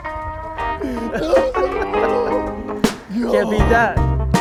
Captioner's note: laughter